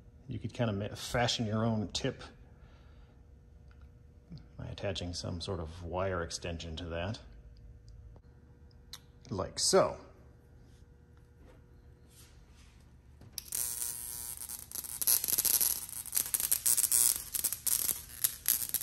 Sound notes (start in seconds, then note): 13.2 switch clicks, wand buzzing; 17.1 buzzing continues